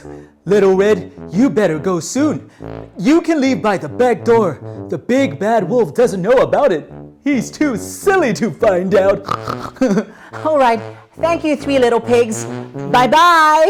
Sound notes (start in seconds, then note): 9.2 pig snorts